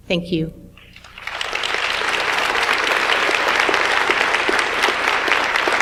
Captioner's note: audience applauds